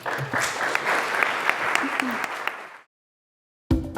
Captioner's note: audience applauds